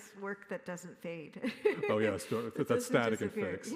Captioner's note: laughs